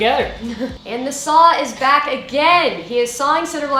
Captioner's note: laughs